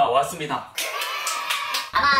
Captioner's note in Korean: 박수